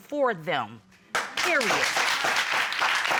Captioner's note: applause